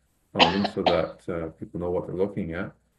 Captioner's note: coughs